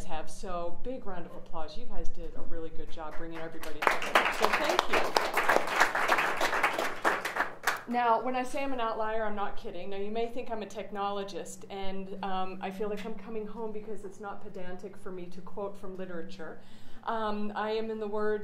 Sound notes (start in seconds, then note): 6.8 applause